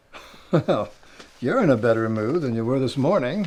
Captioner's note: chuckles